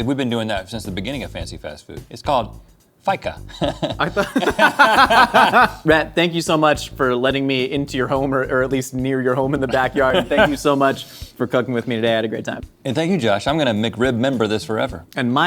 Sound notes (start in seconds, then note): 3.4 both laugh